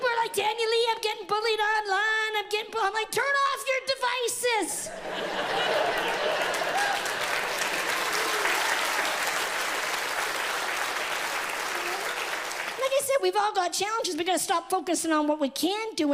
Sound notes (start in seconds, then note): 4.9 audience laughs; 7.5 audience laughs and cheers